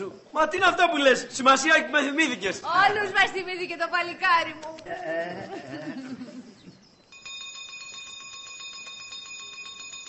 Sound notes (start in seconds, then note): 7.1 court bell rings